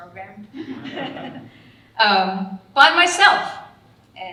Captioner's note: audience laughing